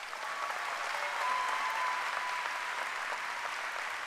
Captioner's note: applause